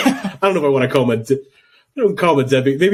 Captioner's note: laughing